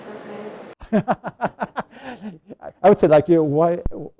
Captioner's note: laughs